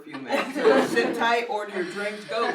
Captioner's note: laughs